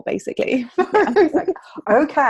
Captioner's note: laughing